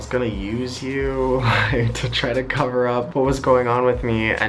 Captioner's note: chuckles